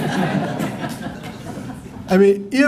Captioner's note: laughter